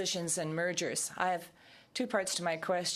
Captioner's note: speaking french